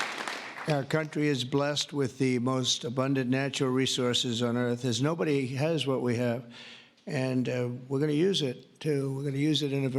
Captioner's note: applause